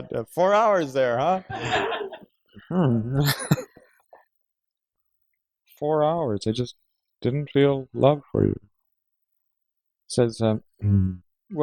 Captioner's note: laughter